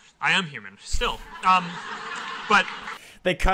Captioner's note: Audience laughing at Mark's words